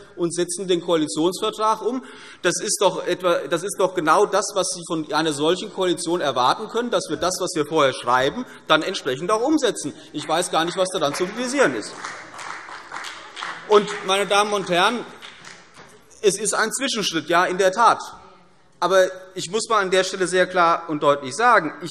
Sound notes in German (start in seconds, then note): 12.0 Beifall CDU und BÜNDNIS 90/DIE GRÜNEN